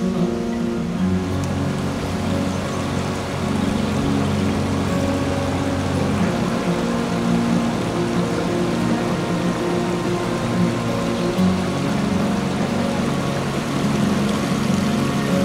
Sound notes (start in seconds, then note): 1.9 sound of flowing water from the stream